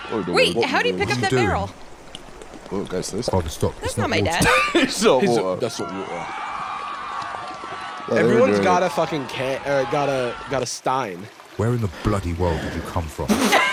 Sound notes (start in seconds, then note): 5.2 britishly